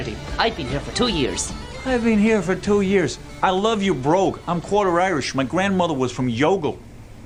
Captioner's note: copying accent